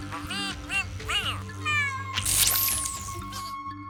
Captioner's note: buzzing; meowing